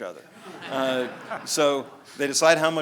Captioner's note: audience laughs